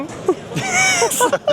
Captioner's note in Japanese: 笑い声